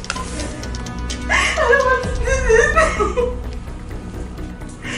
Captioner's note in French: pleure